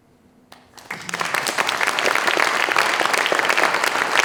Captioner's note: applause